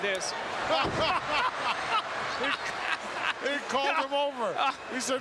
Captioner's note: both laughing